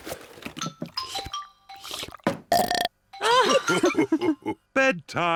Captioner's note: laughing; slurps and belches